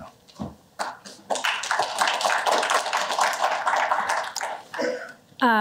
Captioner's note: applause